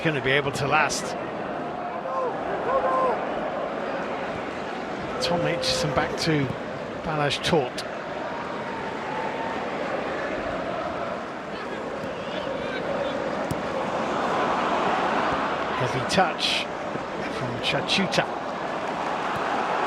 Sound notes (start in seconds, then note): 5.2 audience oohs; 6.5 chanting